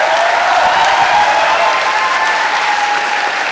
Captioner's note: applause